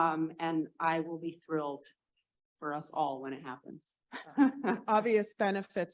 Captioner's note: laughs